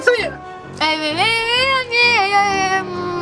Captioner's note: mouth full